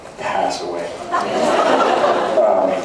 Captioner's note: laughs